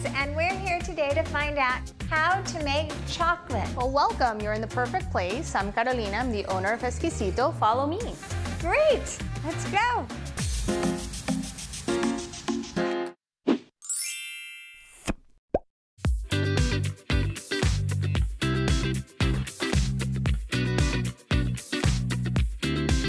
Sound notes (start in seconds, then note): 13.9 chiming bells; 16.5 upbeat techno music